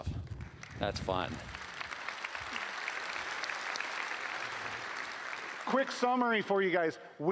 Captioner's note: applause